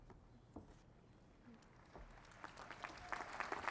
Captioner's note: applause